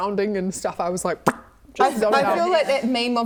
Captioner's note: pop